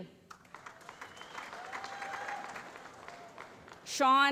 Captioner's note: applause